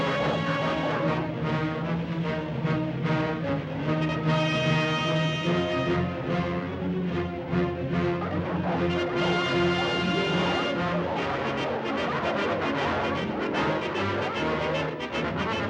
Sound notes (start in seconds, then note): 1.3 suspenseful music; 8.3 dogs barking; 8.3 suspenseful music